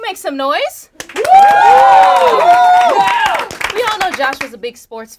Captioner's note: group cheering